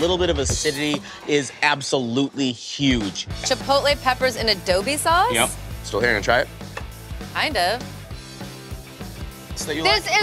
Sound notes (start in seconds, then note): none